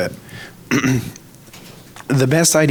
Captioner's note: clears throat